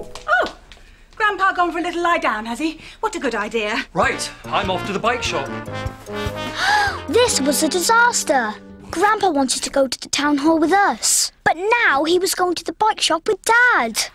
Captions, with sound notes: - Oh! Grandpa gone for a little lie down, has he? What a good idea. - Right, I'm off to the bike shop. - [GASP] Ah! This was a disaster. Grandpa wanted to go to the town hall with us, but now he was going to the bike shop with Dad.